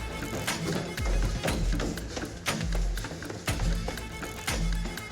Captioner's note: footsteps thudding; dramatic music